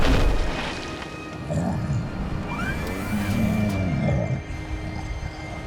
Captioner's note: Appa grunting